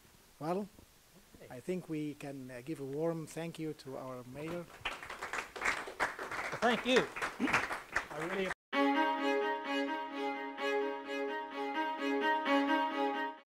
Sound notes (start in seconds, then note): 4.4 applause